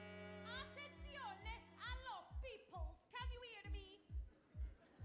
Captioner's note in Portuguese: speaking Italian; audience laughing; upbeat runway music